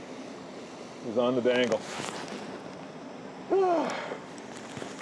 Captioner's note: sighs